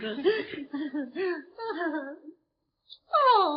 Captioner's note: Veta laughing nervously